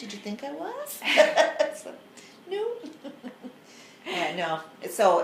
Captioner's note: laughs